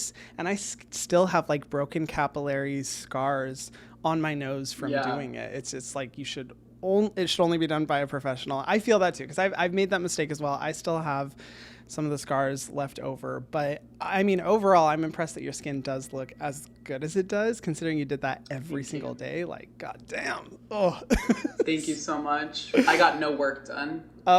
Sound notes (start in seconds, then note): 20.7 groans; 20.7 laughing